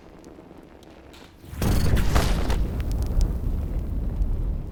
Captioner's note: flames roaring